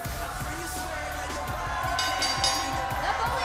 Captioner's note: bell ringing